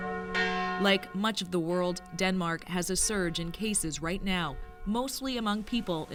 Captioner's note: bells tolling